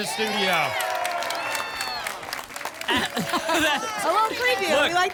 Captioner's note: applause and cheering